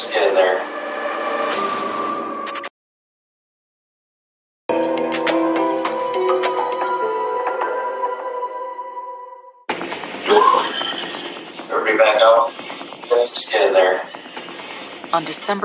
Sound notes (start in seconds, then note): 2.8 draramamatic c mumusicacal; 10.2 pererson n cocoughs